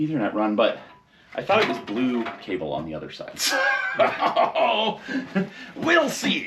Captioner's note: laughs